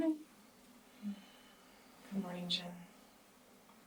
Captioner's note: sighs